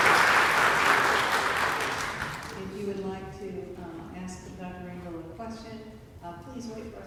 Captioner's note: applause